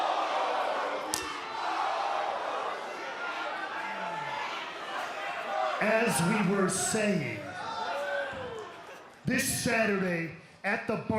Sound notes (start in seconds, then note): 1.1 slapping